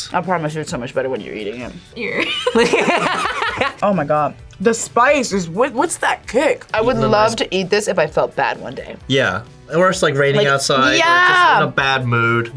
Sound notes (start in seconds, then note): 2.0 both laugh